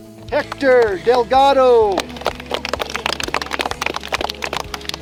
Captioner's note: clapping